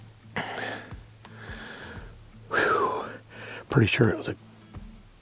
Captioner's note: breathing heavily